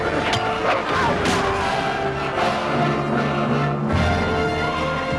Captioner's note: villager screams